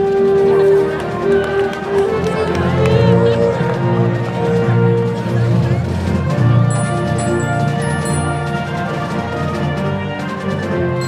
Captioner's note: applause